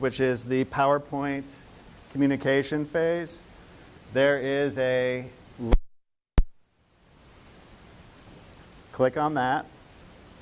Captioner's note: audio cut out